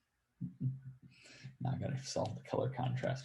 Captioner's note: laughs